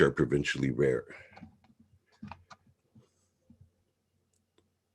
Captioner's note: mouse clicking